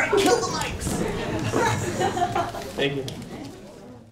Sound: students laughing

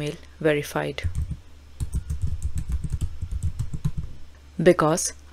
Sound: keyboard clacking

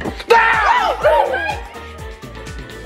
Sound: screaming

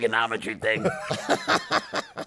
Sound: laughter

